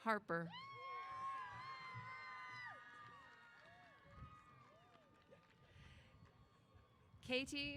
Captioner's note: cheers